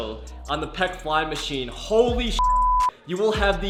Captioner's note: beep